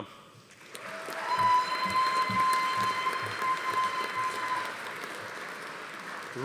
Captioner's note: audience applauding; attendees cheering